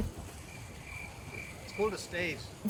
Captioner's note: crickets chirping